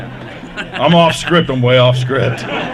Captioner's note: laughter